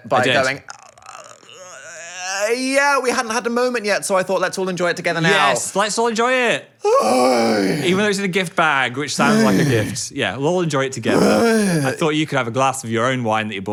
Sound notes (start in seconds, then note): 0.6 moaning; 6.8 Dan groaning